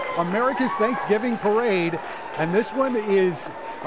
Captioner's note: cheering